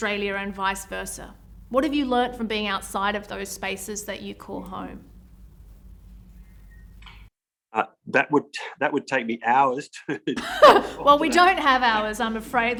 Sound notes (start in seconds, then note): 10.3 light laughter